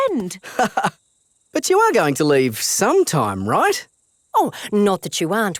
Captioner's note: laughs